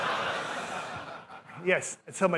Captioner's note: laughter